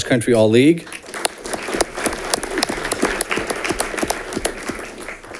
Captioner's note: audience clapping